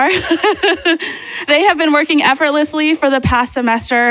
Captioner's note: laughs